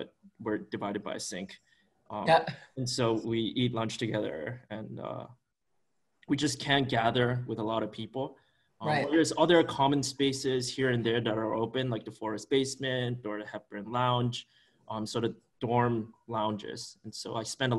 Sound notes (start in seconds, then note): 2.9 chuckles